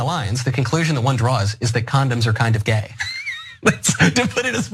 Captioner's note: laugh